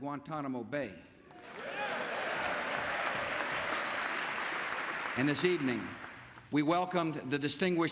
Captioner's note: cheers and applause